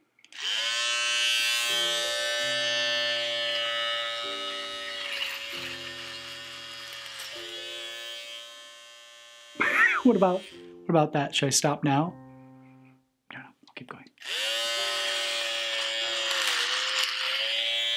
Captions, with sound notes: (shaver buzzing) (piano music) (laughs) What about, what about that? Should I stop now? No. Keep going. (shaver buzzing)